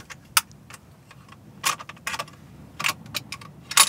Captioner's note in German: Klicken, Rattern